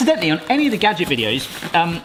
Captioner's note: none